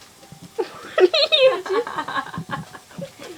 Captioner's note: laughter